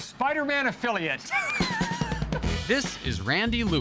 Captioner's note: both laughing